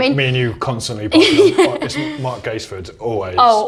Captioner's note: loud laughter